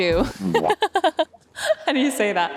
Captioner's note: laughing